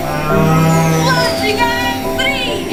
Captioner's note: cow mooing